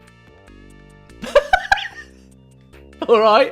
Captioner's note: laughter